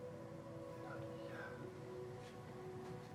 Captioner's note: whispers